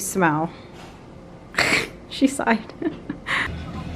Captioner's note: laughs